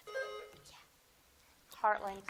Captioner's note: buzzer dings